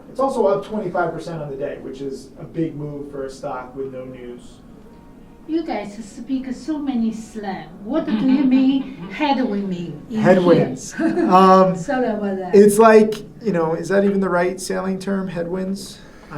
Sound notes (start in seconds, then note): 7.9 laughing; 10.8 chuckles